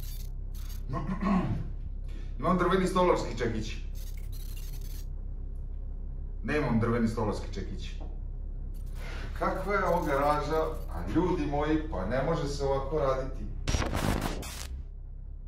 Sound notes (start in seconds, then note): 0.9 throat clearing